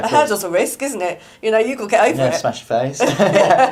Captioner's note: laughs